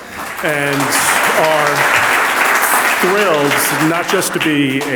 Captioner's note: audience applauds